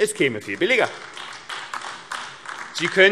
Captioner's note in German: Beifall AfD